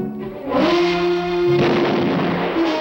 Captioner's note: gunshot